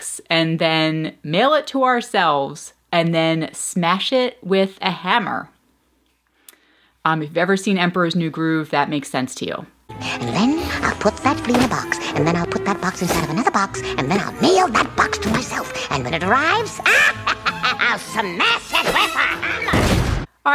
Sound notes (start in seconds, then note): 9.8 voiceover; 16.9 laughing